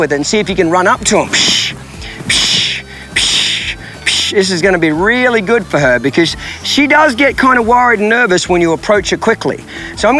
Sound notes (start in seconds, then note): 1.0 loud shushing